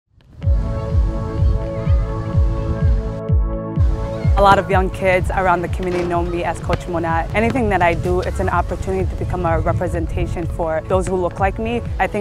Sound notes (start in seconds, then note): 0.4 upbeat music; 1.2 children chattering